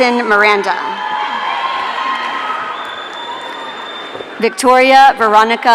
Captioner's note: audience cheering